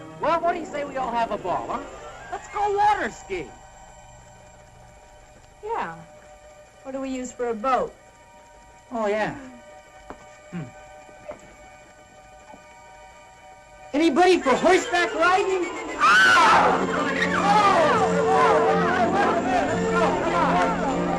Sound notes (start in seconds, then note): 19.9 all yelling; 20.1 triumphant music